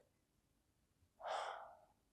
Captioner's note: sighing